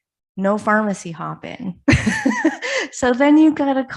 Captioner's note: laughs